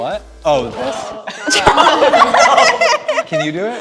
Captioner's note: laughter